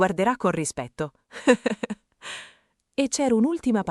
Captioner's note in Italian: Haha